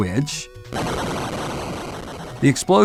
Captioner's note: boom!!